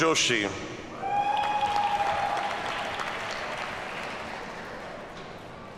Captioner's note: audience cheers and applauds